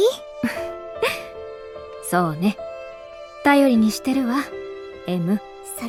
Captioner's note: chuckle